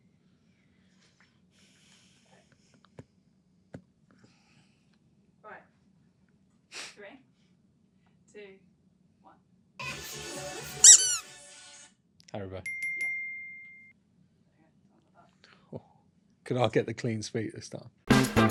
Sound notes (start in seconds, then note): 10.8 toy squeaks; 12.6 bell chimes; 18.0 upbeat music